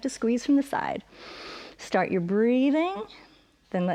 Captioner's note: inhales